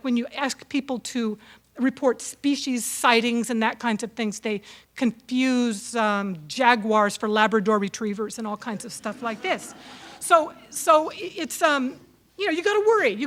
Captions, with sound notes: when you ask people to report species sightings and that kinds of things, they confuse jaguars for Labrador retrievers (audience laughs) and all kinds of stuff like this, so you gotta worry,